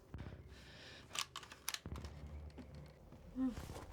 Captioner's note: sound of Gun Safety Being Taken Off